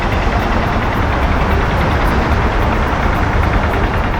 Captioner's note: construction sounds